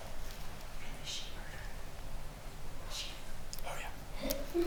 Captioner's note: attendee whispers